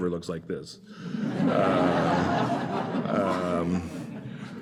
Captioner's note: laughter